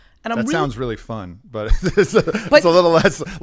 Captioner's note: laughs